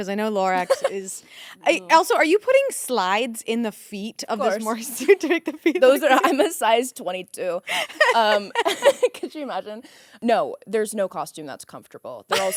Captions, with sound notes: 'Cause I know Lorax is- - No. - Also, are you putting slides in the feet? (laughing) - Of course. I'm a size 22. (both laughing) Could you imagine? No, there's no costume that's comfortable.